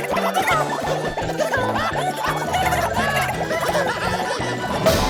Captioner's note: laughing